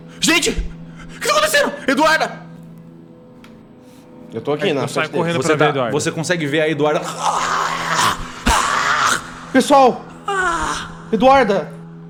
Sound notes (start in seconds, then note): 7.0 grunts